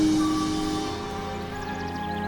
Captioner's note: birds chirping; calm music playing